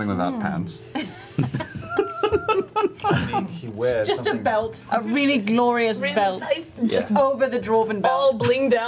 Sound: laughs

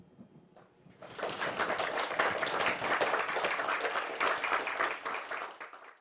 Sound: applause

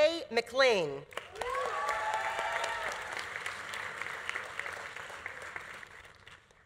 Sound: audience applauding; audience cheering

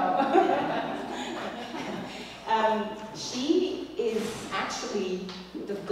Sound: laugh

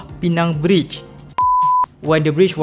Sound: beep

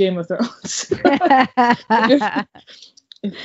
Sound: laughing

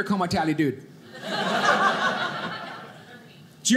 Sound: audience laughing

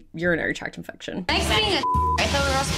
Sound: beep

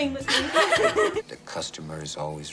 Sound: laughter

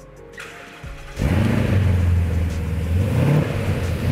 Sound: engine roar

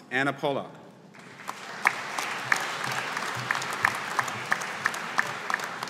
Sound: audience applauding

